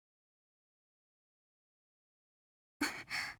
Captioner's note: silence; silence